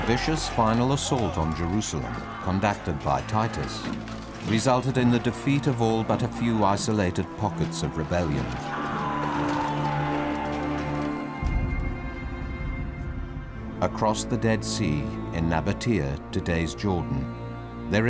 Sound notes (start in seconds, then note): 8.6 man screaming; 8.6 soft somber music